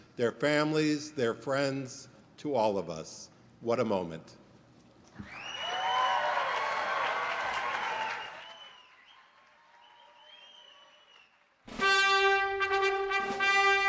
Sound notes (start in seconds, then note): 5.3 applause; 11.7 orchestra music playing